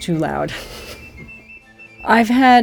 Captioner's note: laughs